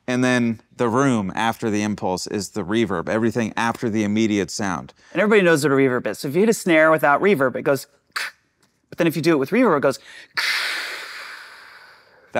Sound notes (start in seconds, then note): 8.5 puffs; 11.8 huffs